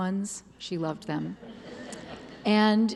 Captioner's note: laughter